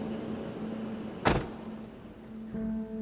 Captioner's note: door thuds; gentle music